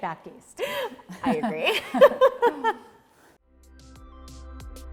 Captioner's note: laughs